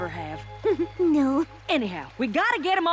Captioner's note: giggle